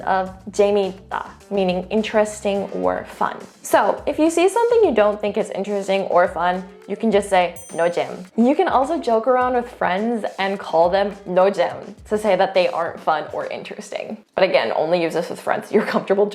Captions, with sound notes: of (speaks in Korean) meaning interesting or fun. So, if you see something you don't think is interesting or fun, you can just say (speaking in Korean) (bell ringing) You can also joke around with friends and call them (speaks in Korean) to say that they aren't fun or interesting, but again only use this with friends you're comfortable